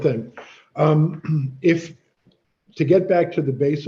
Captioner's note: clears throat